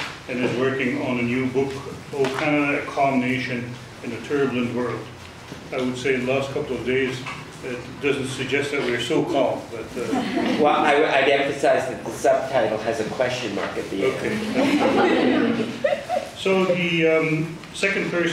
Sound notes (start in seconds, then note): 10.0 audience laughs; 14.3 class laughs